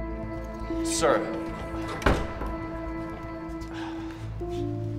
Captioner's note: door rattling; Drew sighs